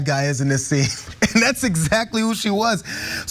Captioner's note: laugh